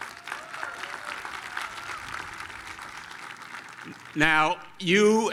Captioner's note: applause